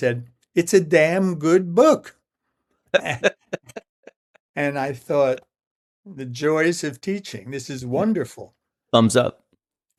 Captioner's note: laughter